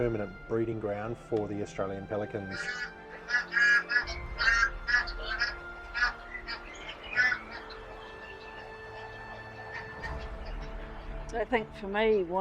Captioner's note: pelicans calling, waves lapping